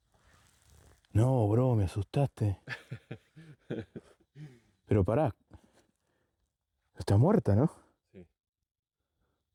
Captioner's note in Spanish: risas